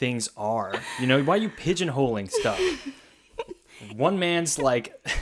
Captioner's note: laughs